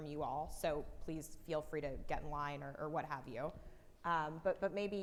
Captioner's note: faintly speaking